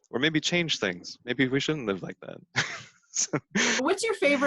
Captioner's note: laughs